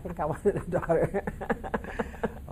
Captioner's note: laughing